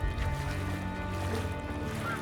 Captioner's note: water splashing; seagulls cawing